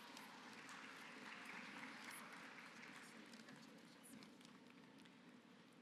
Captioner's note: applause